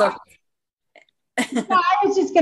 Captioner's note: chuckles